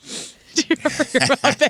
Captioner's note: laughing